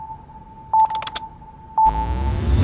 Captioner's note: slow beeping; keyboard clicking; upbeat electronic music